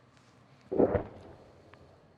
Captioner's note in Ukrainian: звук вибуху